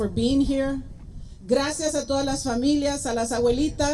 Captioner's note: spanish